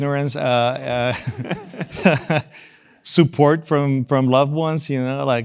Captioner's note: laugh